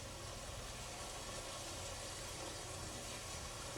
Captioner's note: rain